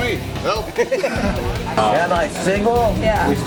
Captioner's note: laugh